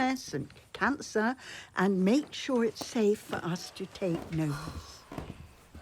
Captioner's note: Jim sighs